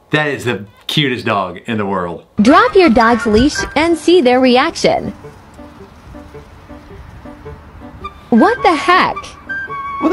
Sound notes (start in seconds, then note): 2.5 robotic Voice; 5.7 upbeat music